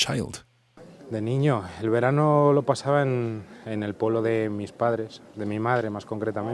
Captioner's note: speaks in foreign language